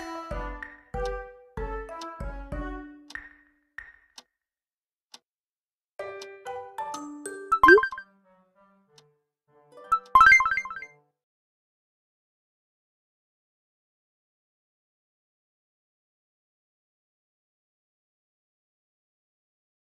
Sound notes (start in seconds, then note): 0.2 clock sound; 7.6 clock sound; 9.9 confirmation sound